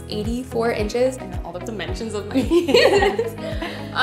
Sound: both laugh

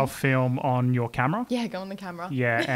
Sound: laughs

